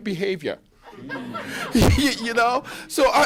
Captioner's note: laughter